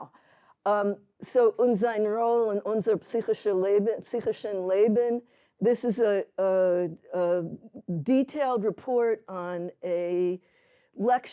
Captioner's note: speaking yiddish